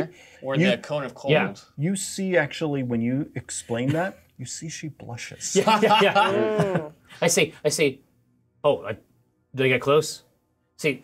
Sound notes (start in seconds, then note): 5.5 co-hosts laughing